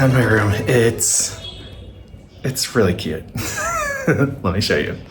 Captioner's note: laughing